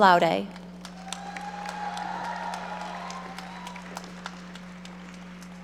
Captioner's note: audience applauding